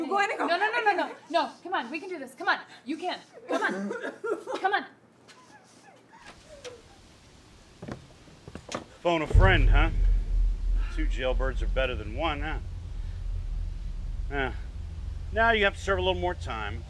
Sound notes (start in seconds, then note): 3.5 Nova coughing; 9.4 dramatic music